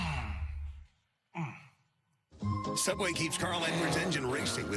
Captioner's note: comical crashing/ body thumping/groaning sounds